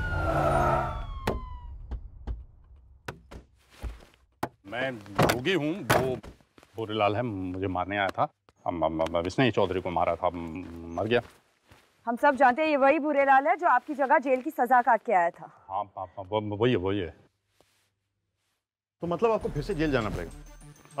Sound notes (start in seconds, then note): 0.1 car halts; 3.0 car door opens; 4.7 car door closes